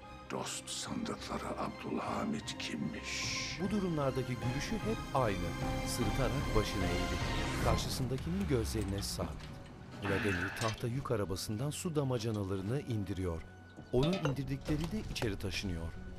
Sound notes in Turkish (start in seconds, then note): 10.0 Nefes sesi; 13.9 Şişe sesi